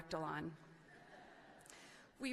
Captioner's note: laughing